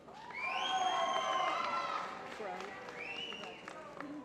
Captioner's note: applause